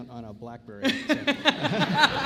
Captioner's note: laughter & Applause